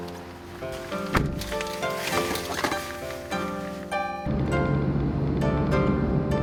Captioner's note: bright music continues; door shutting